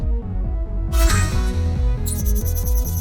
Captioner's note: console chirping; console beeps